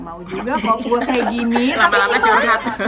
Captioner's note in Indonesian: Dena laughs